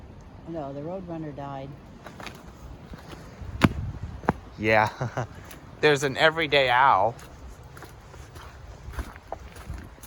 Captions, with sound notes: No, the roadrunner died. [footsteps] Yeah. [chuckles] There's an "every day" owl.